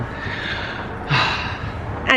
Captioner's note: sigh